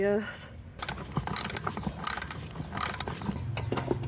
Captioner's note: ratched winding